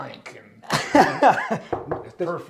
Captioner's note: laughs